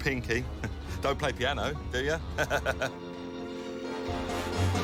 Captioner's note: laughs